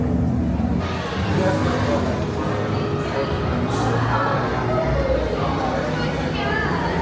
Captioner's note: guests chatting indistinctly continues